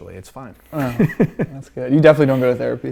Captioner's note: laughing